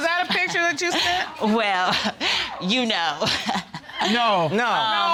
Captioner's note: laughing